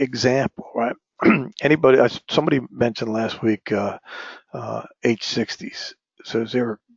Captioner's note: cough